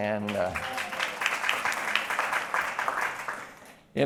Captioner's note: applause